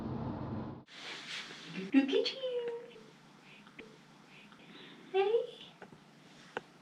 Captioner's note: chatter